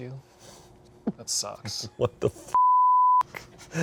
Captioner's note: beep